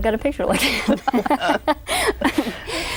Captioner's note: laughter